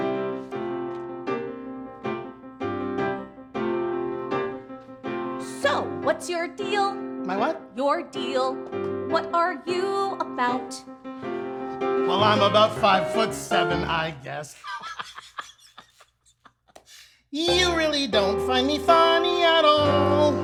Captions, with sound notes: So, what's your deal? My what? Your deal. What are you about? Well, I'm about five-foot-seven, I guess. (Laughing) You really don't find me funny at all?